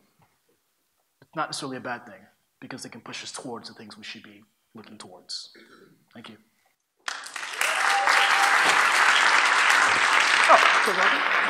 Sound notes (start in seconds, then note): 7.0 applause